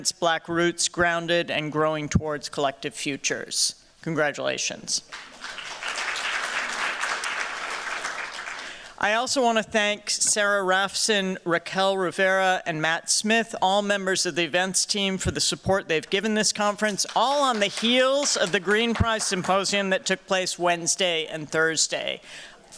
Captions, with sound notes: Black Roots Grounded and Growing Towards Collective Futures. Congratulations. [APPLAUSE] I also want to thank Sarah Raphson, Raquel Rivera, and Matt Smith, all members of the events team, for the support they've given this conference, all on the heels of the Green Prize Symposium that took place Wednesday and Thursday.